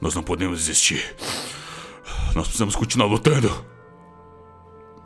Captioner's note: pant